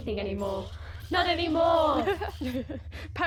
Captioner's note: Ash laughs